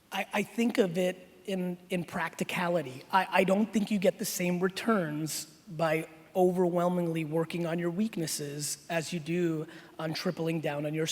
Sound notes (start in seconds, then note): none